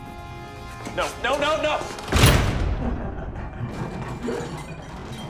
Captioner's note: door slams